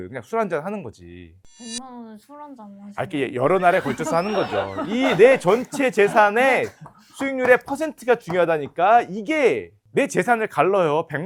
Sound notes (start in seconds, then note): 1.5 sharp sound effect; 3.5 laughter